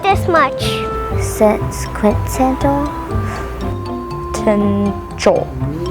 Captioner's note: chuckling